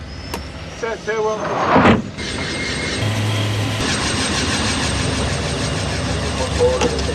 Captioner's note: beeping; helicopter blades whirring